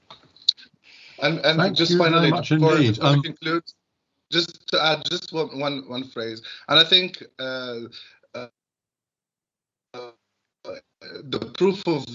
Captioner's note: glitch